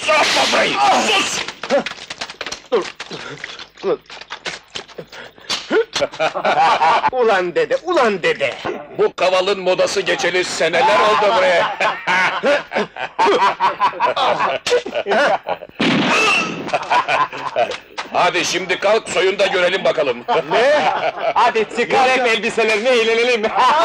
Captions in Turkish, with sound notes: Sus vre sus! [Kahkahalar] Ulan dede, ulan dede! Bu kavalın modası geçeli seneler oldu vre! [Kahkahalar] Tuhh! Hah! [Silah sesi] Hadi şimdi kalk, soyun da görelim bakalım! - Ne? - Hadi çıkar elbiselerini, eğlenelim!